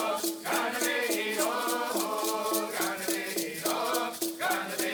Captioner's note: dancers' chanting continues